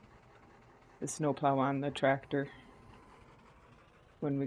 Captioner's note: blower